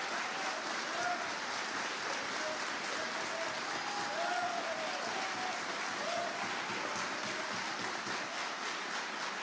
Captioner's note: applause